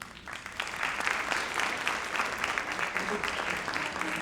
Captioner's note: audience clapping